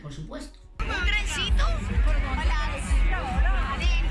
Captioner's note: crowd sounds